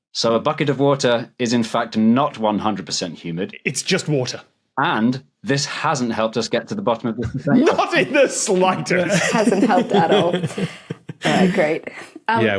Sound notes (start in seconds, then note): 8.9 laughs